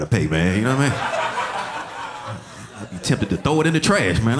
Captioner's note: audience laughing